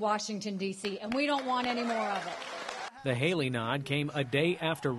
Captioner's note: cheering and applause